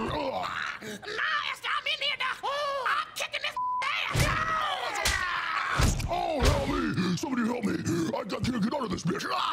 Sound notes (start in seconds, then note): 4.9 blows landing; 6.2 deep voice